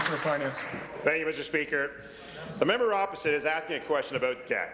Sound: applause

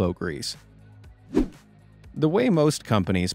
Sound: swoosh

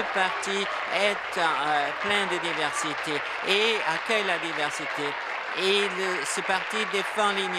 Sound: applause

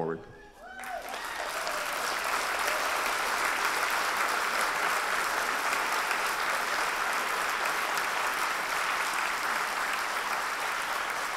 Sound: applause

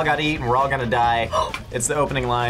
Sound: gasps

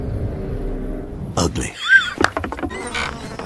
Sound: wheeze; clap, feet on wood sound

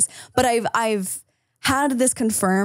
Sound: none

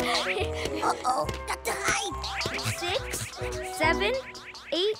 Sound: giggle

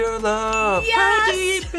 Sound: audio dings

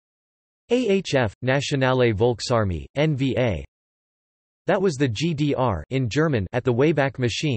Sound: in German

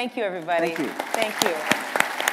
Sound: applause

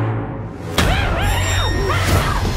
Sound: muffled screaming

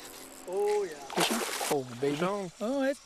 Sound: splash

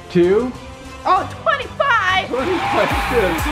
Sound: crowd cheering

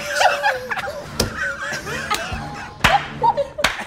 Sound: all wheeze with laughter

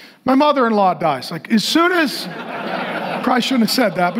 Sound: congregation laughing

